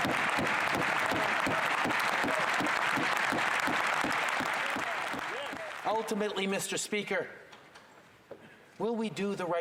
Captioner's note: cheers and Applause